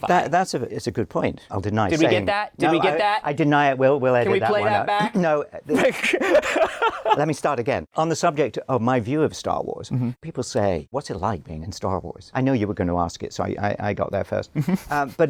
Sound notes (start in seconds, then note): 5.7 laughter; 14.6 laughs